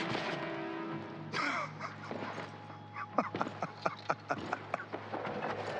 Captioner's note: laughs